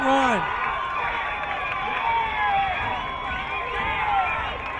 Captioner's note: crowd cheering